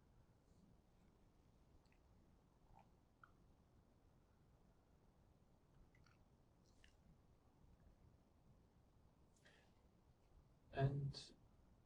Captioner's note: pauses 11 seconds